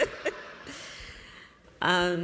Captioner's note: laughter